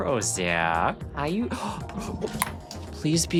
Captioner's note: gasp